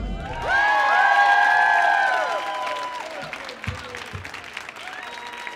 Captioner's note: audience cheers and applauds